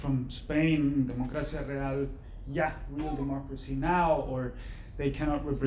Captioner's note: speaking foreign language